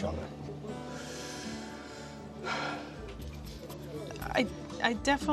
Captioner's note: breathes deeply